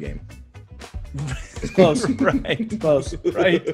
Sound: laugh

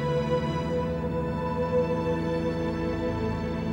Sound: airplane engine running

